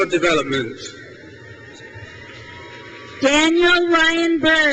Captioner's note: crowd cheers